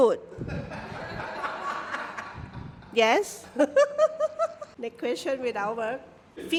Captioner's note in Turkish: kahkaha